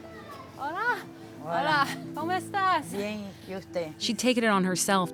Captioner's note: conversing in Spanish